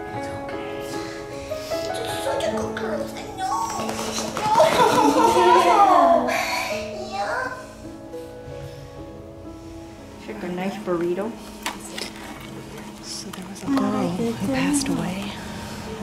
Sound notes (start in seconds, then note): 4.5 laughter